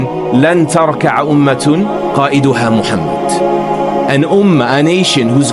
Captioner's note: speaking arbaic